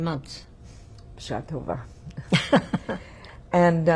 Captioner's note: hebrew; laughing